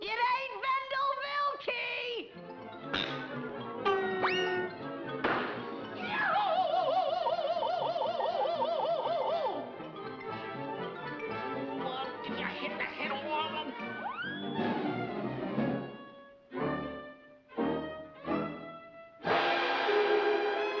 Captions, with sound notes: It ain't Wendell Willkie! [screams]